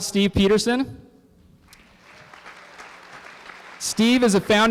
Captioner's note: applause